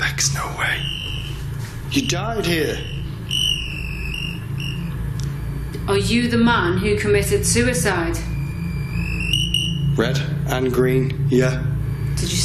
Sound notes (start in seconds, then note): 0.2 whispers; 3.8 device ringing; 9.1 device beeping